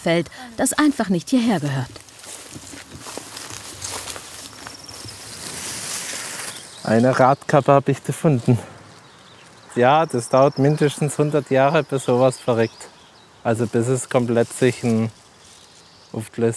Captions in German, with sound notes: das einfach nicht hierher gehört. (Rascheln) (Vogelzwitschern) Eine Radkappe hab ich gefunden. Ja, das dauert mindestens 100 Jahre, bis so was verreckt. Also, bis es komplett sich ... aufgelöst hat.